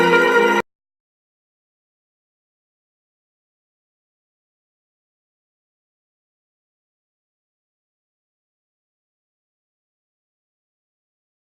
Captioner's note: silence